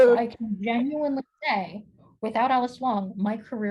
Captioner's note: none